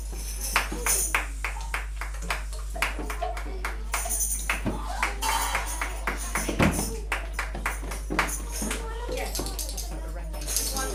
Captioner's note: teacher claps